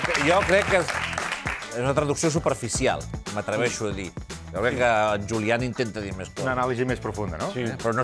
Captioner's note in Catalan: aplaudiments